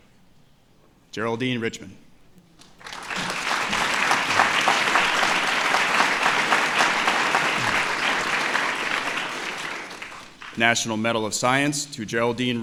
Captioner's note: applause